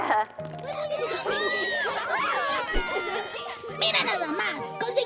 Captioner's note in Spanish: Niños riendo